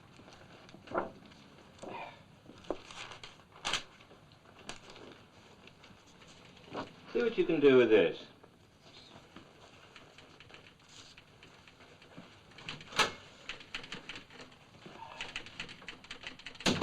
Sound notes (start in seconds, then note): 12.7 door opens; 13.9 typewriter chattering; 16.6 door closes